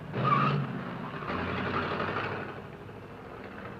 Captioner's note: tires squealing